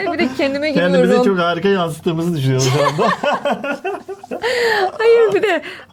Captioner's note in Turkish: kahkaha